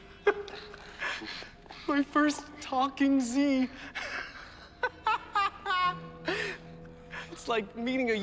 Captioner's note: laughs